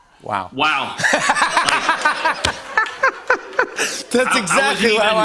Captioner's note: laughter